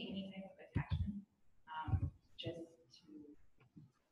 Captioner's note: speaking off mic